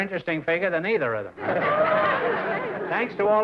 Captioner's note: laughter